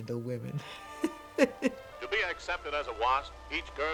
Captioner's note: laughs